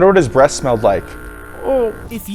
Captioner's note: saw running loudly